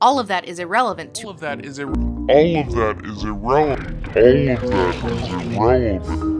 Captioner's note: repeats with increasing distortion